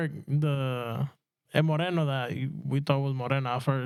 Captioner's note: speaking In Foreign Language